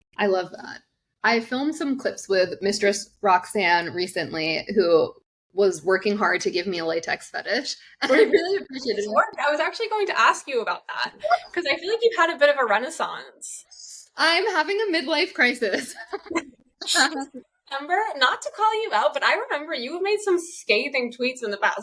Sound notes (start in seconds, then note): 15.8 laughs